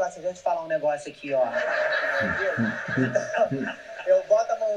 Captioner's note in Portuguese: plateia ri